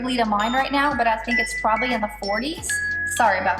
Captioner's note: phone dinging